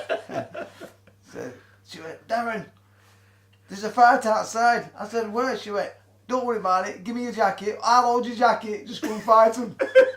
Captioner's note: laughs